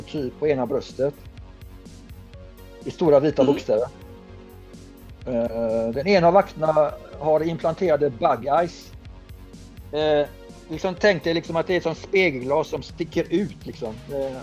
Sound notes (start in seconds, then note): none